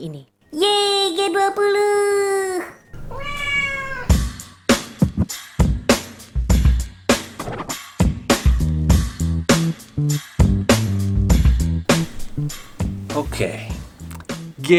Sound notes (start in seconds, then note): 2.9 cat meows